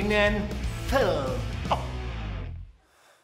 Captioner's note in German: Schluchzen